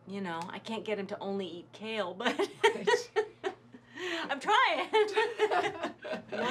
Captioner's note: laughs